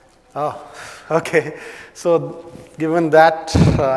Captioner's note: laugh